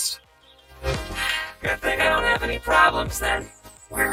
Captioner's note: sighs